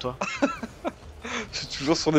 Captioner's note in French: Rires